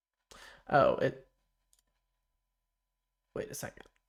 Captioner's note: silence